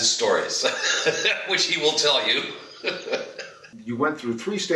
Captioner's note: laughs